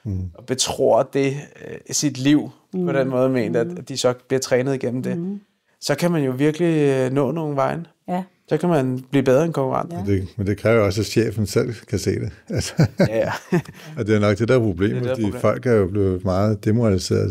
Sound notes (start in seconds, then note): 12.0 chuckles